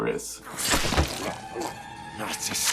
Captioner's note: gurgles